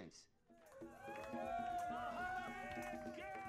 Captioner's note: cheering